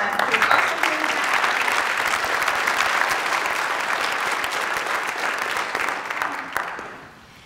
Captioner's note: applause